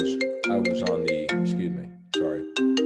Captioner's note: cell phone rings